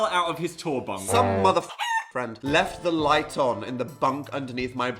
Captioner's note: honk